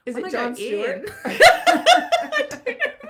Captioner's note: laughing